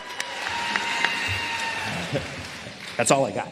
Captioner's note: applause